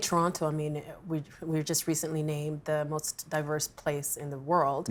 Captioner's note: none